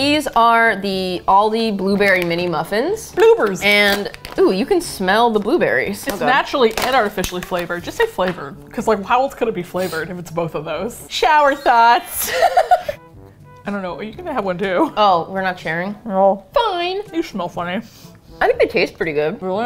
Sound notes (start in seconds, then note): 11.3 laughs